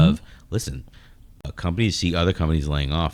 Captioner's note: uh